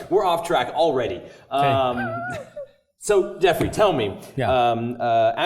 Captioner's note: laugh